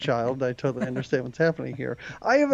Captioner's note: laughing